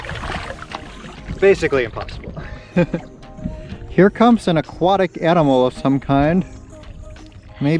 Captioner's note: laughs